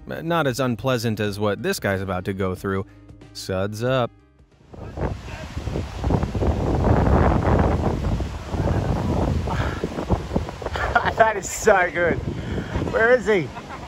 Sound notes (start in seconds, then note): 4.6 waves crashing; 12.6 laughing